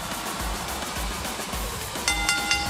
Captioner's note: bell ringing